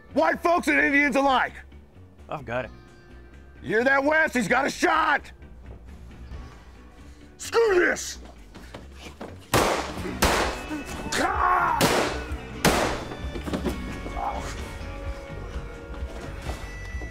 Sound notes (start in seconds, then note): 9.5 gunshots firing; 10.8 Richard yelping; 11.8 gunshots fire; 13.7 tense dramatic music